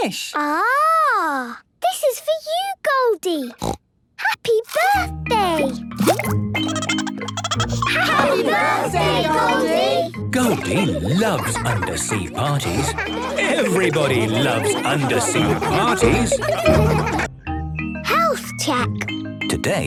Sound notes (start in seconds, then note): 3.6 snorting; 6.6 Goldie giggling; 16.3 laughter